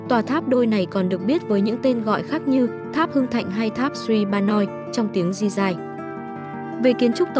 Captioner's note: in J'rai language